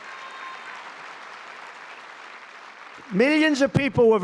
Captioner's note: applause